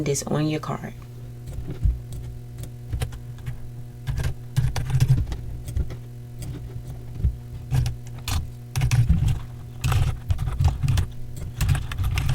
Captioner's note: 3x speed clip, keyboard clicking